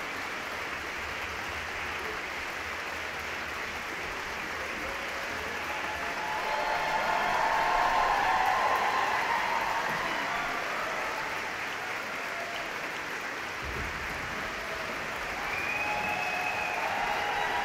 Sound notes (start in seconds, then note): 5.8 audience cheering; 5.8 audience clapping